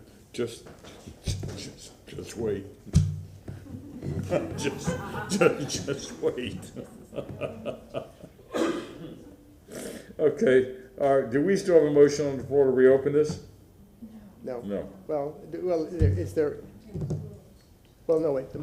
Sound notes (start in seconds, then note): 7.5 laughter